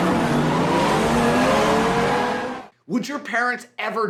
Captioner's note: car tires screeching; car engine revving